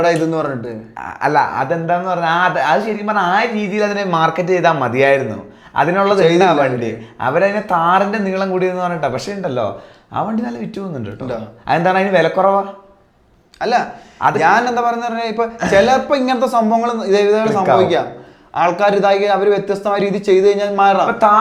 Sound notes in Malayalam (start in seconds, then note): 15.6 തൊണ്ട ശരിയാക്കുന്നു